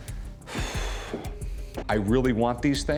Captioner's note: exhales